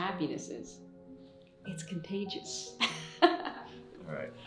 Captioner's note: chuckles